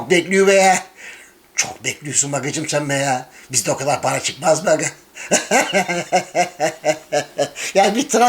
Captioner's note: imitating Thracian Turkish accent